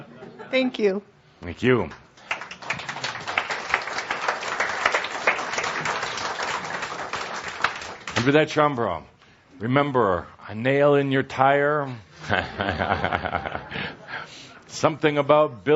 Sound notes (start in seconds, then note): 5.4 audience applauds; 12.2 chuckles